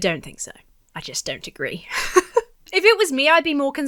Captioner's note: laughs